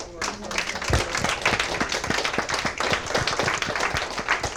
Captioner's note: applause